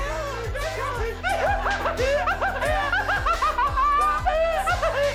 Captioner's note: laughing hysterically